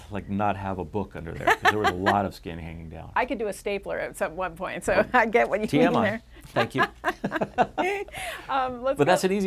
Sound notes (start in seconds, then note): 1.4 laughter; 6.4 laughter